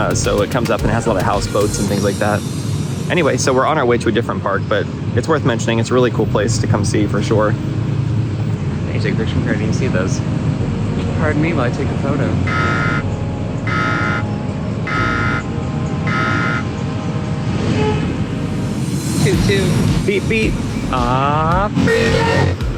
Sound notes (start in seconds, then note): 14.5 slow buzzer sound